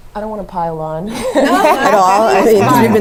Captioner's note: laugh